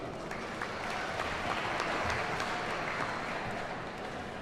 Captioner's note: audience applauds